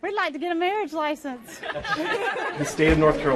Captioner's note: laughter